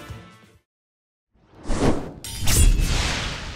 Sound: swoosh; sword slash

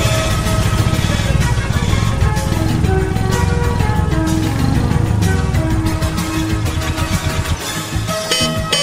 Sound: epic exhaust sounds; horn

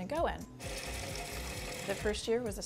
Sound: lathe grinding

